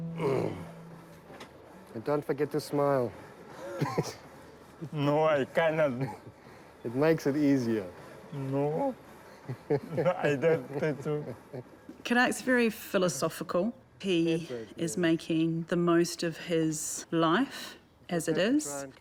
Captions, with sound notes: - Boom. And don't forget to smile. (BOTH CHUCKLE) - It makes it easier. - No. - (CHUCKLES) - Khadag's very philosophical. He is making the most of his life as it is.